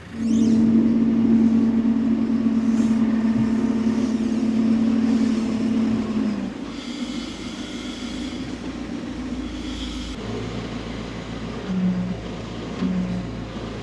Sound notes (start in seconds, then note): 0.7 telehandler whirring